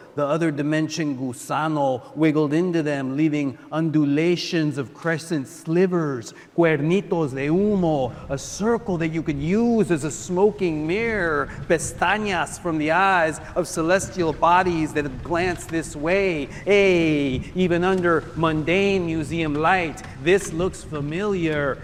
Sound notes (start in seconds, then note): 6.6 speaker speaking in foreign language